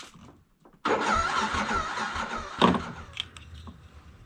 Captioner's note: engine not starting